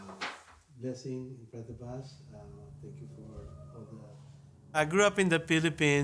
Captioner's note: faintly speaking